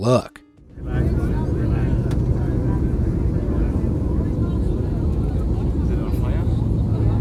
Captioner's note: engine whirring; passengers chattering